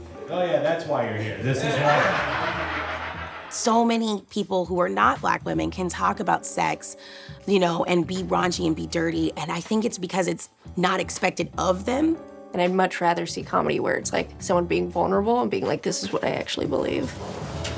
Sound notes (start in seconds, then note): 1.4 audience laughs